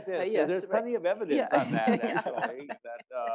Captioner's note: laugh